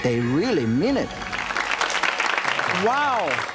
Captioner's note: audience clapping